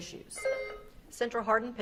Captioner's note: beep buzzing